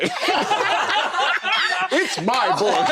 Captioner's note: laughter